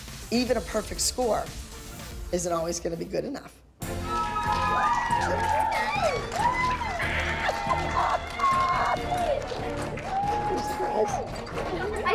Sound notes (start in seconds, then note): 3.9 cheering, applause; 6.8 laughs